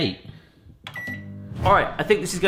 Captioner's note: beep